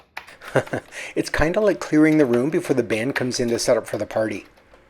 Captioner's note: chuckles